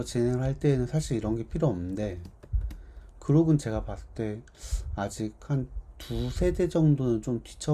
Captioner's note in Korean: 콧방귀